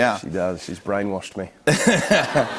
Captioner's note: laughter